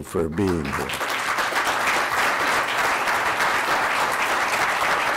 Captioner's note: audience applauds